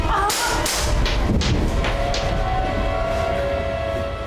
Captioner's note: screaming; gunshots